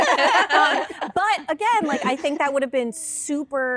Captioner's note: laughter